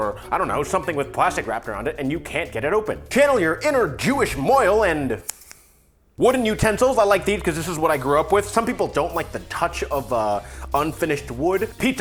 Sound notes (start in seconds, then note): 5.2 snip snip